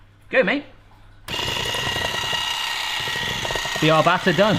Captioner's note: whisk whirring